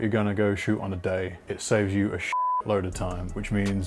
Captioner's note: beep